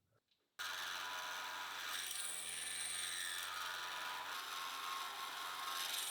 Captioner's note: machine whirring and buzzing